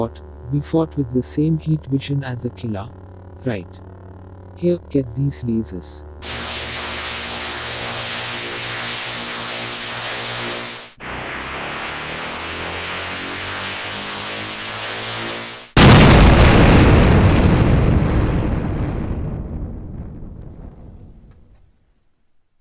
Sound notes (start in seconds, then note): 15.7 explosion